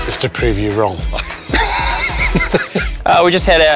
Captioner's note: laughter